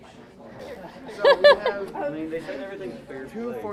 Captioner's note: laughs